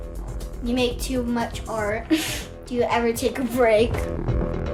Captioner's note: chuckles